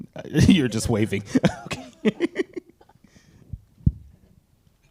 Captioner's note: laughs